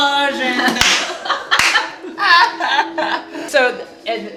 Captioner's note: laughter and clapping